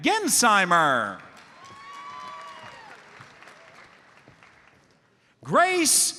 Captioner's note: audience cheers and applauds